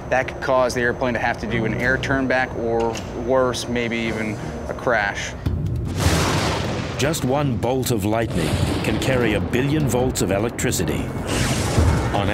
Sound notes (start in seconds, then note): 5.8 thunderclap